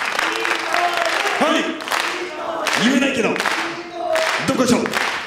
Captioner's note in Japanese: 拍手